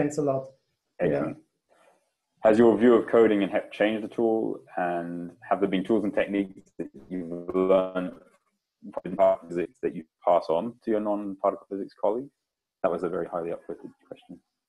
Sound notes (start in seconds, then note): 9.1 voice scrambles